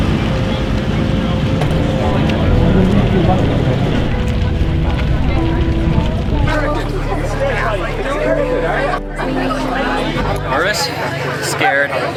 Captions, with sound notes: (melancholy music continues) (people chattering) Nervous, scared.